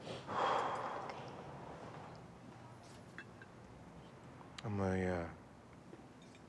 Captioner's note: Jim sighs